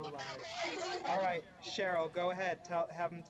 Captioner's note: staticky chattering